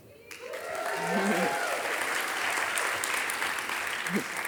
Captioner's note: audience applauding